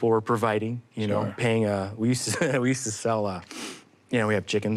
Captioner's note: chuckles